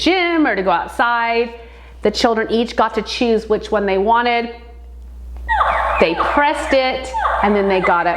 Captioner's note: dinosaur noise